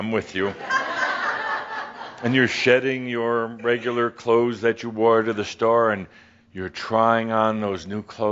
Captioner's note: laughter